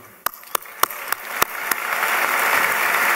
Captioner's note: applause